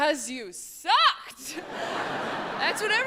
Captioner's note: audience laughs